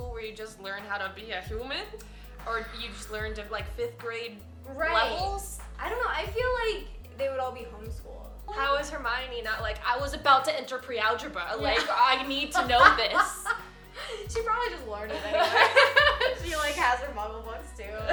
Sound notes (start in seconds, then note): 12.5 laughing; 15.1 laughs